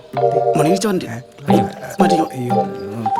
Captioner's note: humming